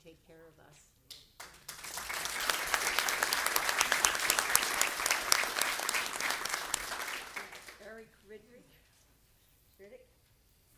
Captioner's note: speaking off microphone; applause